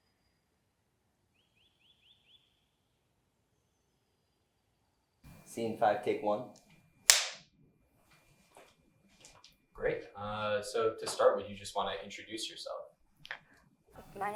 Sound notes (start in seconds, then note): 7.1 slate claps